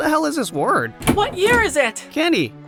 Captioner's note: door slams open